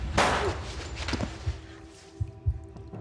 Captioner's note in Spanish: Disparo